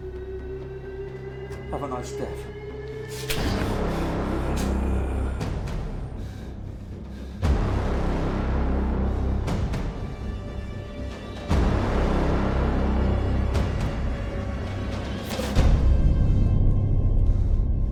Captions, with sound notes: Have a nice death. (Larry panting) (dramatic music)